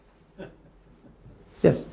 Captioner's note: a man in audience laughing